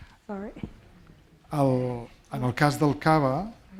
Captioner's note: speaking spanish